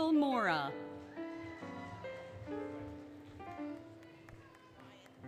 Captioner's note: applause, Cheering, Music